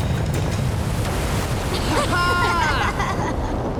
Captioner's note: laughing